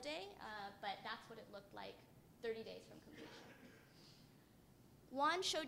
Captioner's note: cough